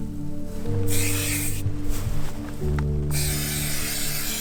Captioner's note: aerosol spraying